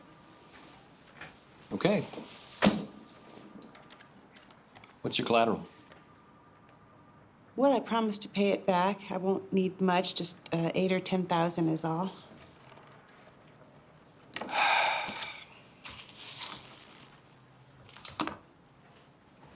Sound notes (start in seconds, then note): 14.4 sighs heavily